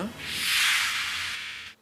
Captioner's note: whoosh